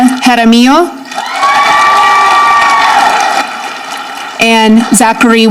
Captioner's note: audience clapping